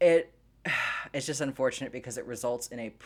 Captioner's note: sighs